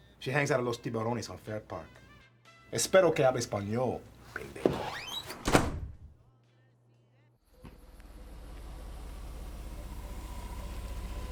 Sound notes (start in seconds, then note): 2.8 Vargas speaks in Spanish; 5.2 door slams shut; 8.1 car engine rumbles